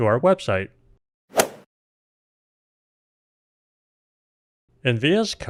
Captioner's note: golf swing sound effect